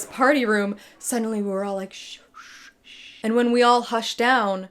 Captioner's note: hushes